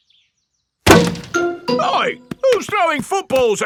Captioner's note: thuds